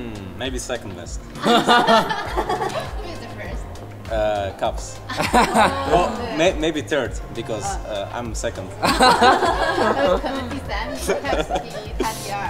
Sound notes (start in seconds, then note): 1.4 everyone laughs; 5.1 laughs; 8.8 laugh